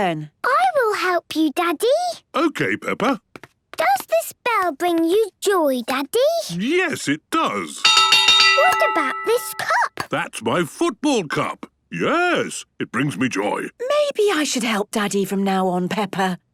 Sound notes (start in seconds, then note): 7.8 clanging